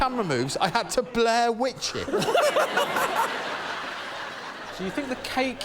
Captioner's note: laughter